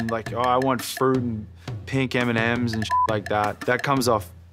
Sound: beep

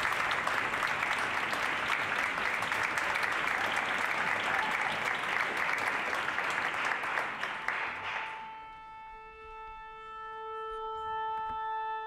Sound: applause

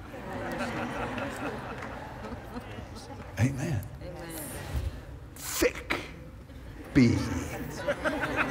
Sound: laughter; audience "Amens"

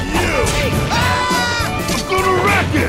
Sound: screaming

